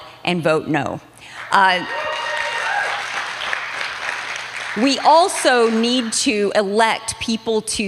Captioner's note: applause